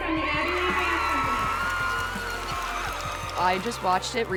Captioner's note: cheers and applause